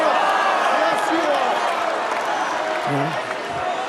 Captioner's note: cheers and applause